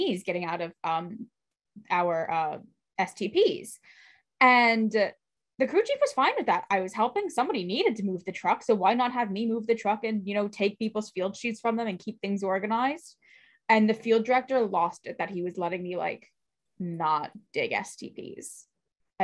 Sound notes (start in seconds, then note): none